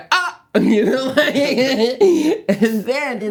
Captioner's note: laughing